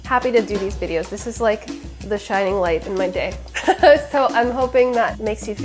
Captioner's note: laughs